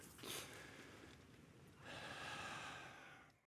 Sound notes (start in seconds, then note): 1.8 exhales deeply